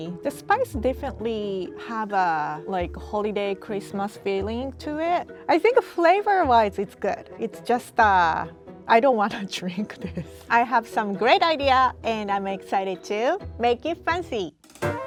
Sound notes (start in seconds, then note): 10.0 laughs; 14.8 playful music